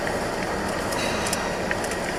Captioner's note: clears throat